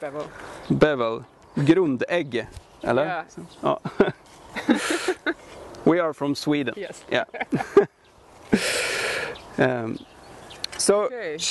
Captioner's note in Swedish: skrattar